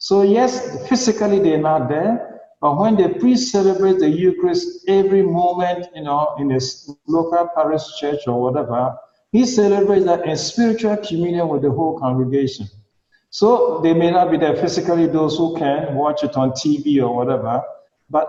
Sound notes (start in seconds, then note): none